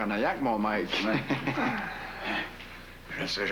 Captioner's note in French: Rire